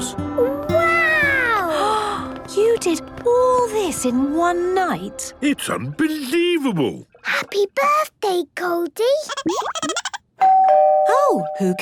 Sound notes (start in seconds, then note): 9.3 Goldie giggling; 10.4 doorbell ringing